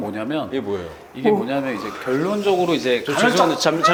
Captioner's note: yawn; huge yawn